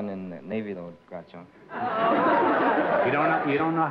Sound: laughter

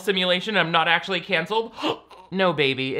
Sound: gasping

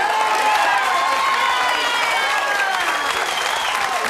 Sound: cheering

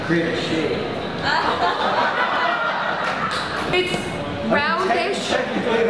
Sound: laughter

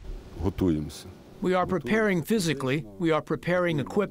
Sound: through translator

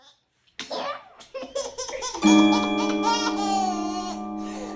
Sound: laughing

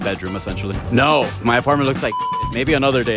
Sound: beep

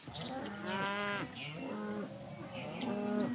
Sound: cows mooing

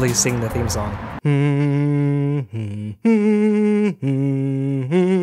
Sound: hums theme song

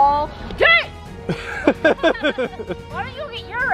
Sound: both laugh

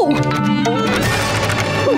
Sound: rattling

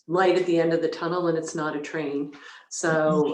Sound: chuckles

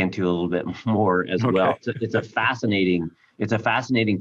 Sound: chuckling

